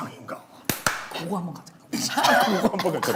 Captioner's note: clapping